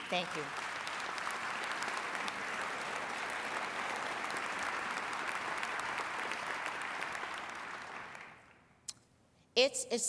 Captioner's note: applause